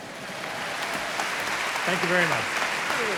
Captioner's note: audience applauding